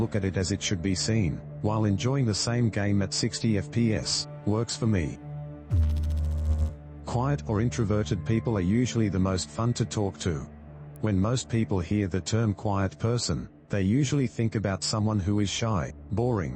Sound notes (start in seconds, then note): 5.7 electrical noise